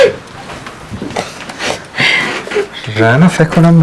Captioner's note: crying